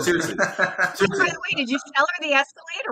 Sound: man laughs

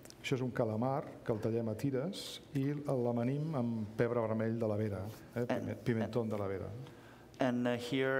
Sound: speaking catalan

